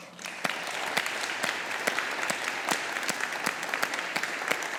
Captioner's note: all applauding